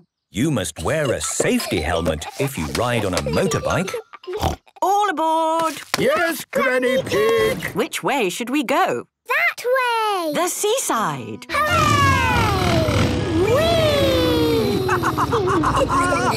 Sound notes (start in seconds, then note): 4.4 snort; 14.2 laughs